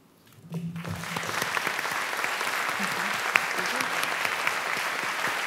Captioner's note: applause